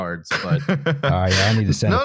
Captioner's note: laughs